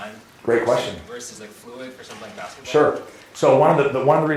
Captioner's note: voiceover